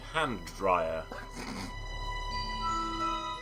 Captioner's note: snorts